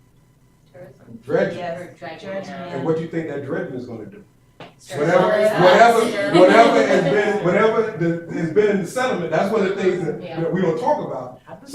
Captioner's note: chatter